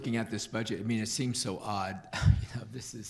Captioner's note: chuckles